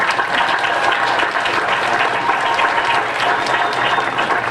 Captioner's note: applause